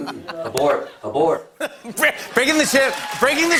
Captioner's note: laughs